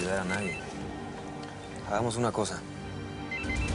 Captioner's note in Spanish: Suena el celular